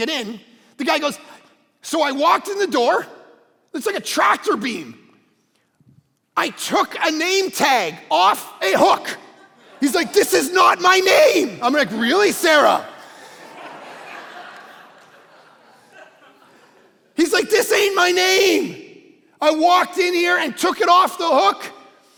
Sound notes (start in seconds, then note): 14.0 congregation laughing